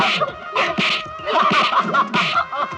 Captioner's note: laughs